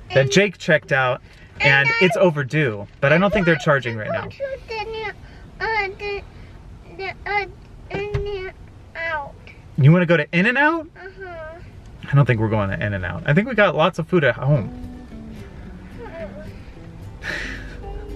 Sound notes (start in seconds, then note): 2.3 mumbles; 16.1 mumbles; 17.3 chuckles